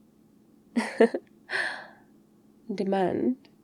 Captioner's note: laughs